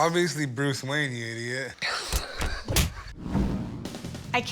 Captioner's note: chuckles